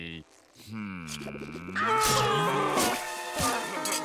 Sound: shrieking

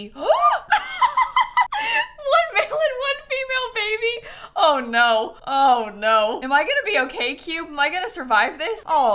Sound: gasps

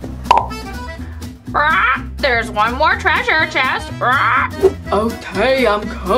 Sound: squawks

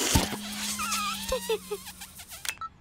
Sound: giggles

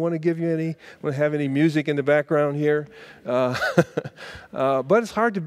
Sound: laughs

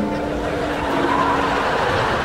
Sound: laughing

